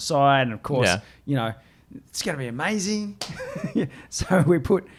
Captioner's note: laughs